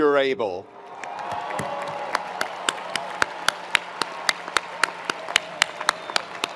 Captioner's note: attendees cheering; attendees applauding